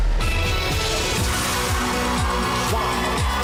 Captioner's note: theme music playing; audience cheering